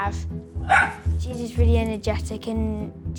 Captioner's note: Apple barking